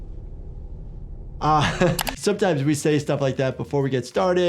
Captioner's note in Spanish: risas